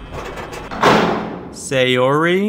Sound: slam

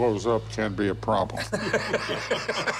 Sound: laughter

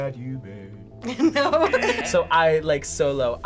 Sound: chuckles; audio buzzes

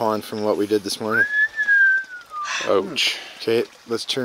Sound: person whistles

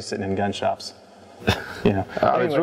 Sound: laughing softly

